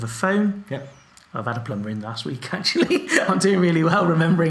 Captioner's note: laughs